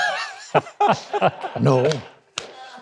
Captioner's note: laughing